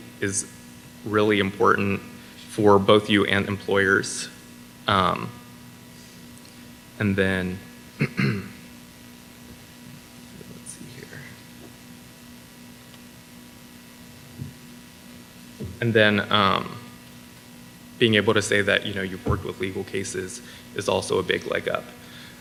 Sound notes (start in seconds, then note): 8.0 clears throat